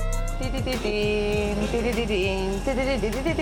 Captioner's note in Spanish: canturrea